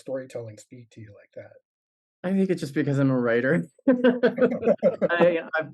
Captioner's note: laugh